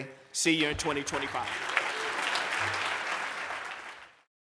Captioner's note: applause